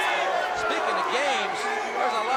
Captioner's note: crowd chatter